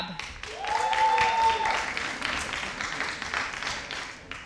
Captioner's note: audience cheering